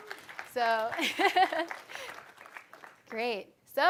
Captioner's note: applause